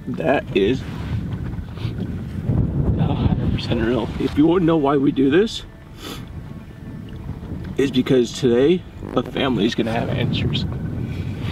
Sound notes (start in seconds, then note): 1.1 voice shaking; 5.9 sniffles